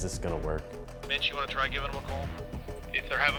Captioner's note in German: Voiceover